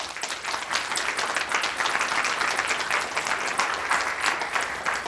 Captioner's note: audience applauding